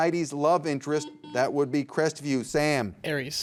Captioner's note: buzzer beeps